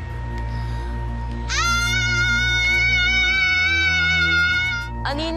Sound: menacing music playing; screaming

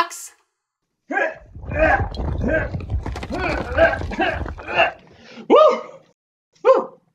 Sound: grunting; bricks shifting

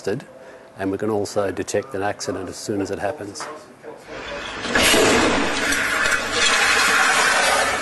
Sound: sound of vehicle crashing

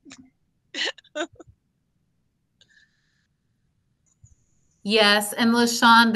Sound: laughing

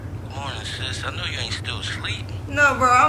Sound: man On phone

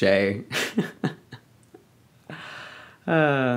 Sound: laughs

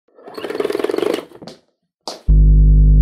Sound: rolling sound; rich humming sound

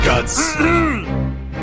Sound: more Muffled Struggling

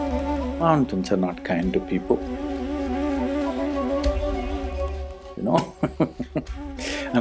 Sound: laughs

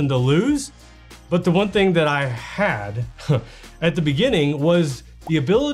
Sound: chuckles

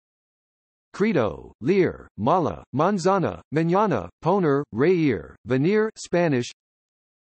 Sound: Spanish

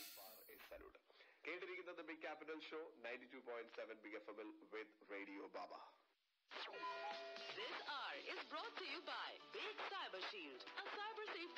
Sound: radio in background

